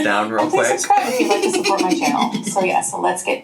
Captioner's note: laughing